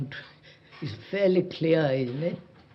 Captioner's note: none